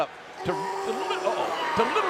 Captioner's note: Roman yelling